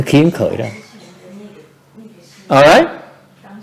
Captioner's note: background chattering